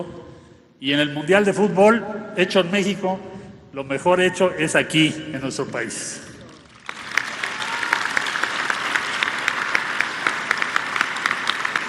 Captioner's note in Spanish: aplausos